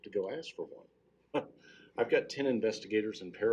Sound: laughing

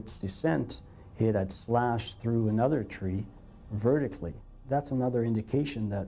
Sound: voiceover

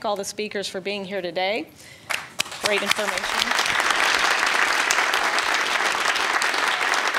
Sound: audience applauding

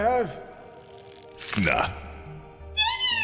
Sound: snap!

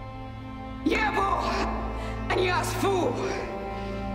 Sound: in Mothertongue

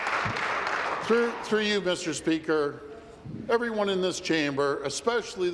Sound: applause

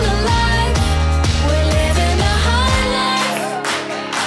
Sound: audience clapping along with music

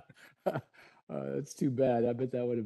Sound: laughter

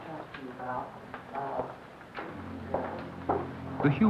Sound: footsteps

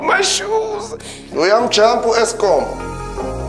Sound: man speaking in foreign language

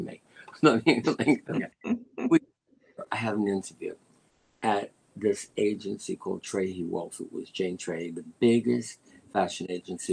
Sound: laughter

